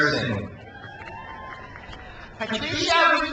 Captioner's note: crowd cheers